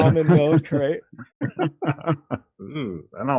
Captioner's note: laughing